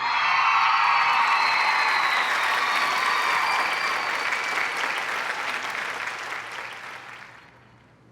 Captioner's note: cheers and applause